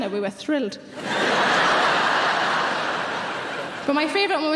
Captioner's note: audience laughing